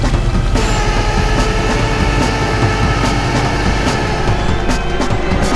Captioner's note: tow truck winch whirring